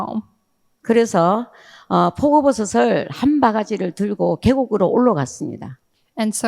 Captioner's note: speaking in foreign language